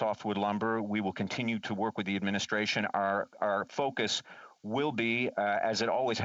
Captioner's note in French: voix de l'interprète